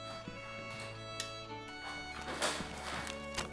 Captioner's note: banging